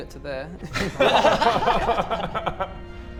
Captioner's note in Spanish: Risas